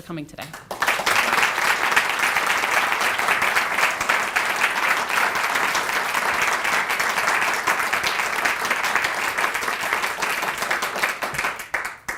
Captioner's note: applause